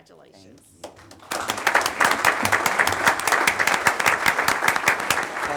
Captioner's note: audience applauding; drowned out by applause